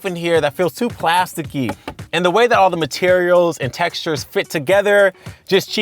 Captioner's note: knocks